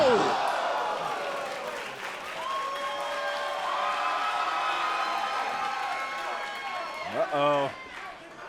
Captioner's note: crowd cheering